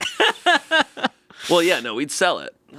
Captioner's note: laughing